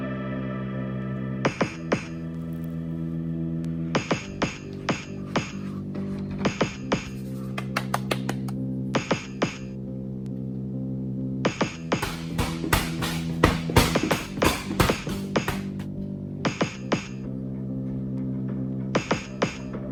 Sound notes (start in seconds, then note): 12.0 heavy bag beating like heart; 16.5 music continues to build